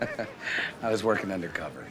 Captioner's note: chuckles